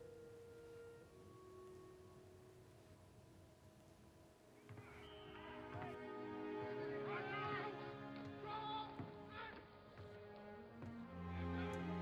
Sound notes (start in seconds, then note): 3.4 whistle blowing; 6.7 shouting from football practice